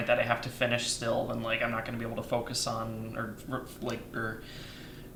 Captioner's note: stuttering